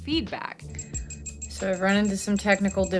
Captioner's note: beeping